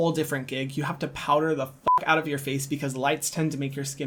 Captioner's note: beep